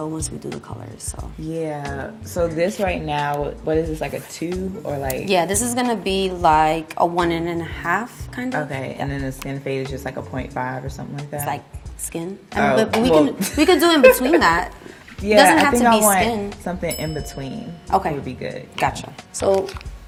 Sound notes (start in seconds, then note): 13.3 laughs